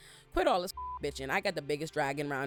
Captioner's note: beep